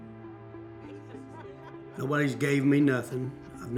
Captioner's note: laughing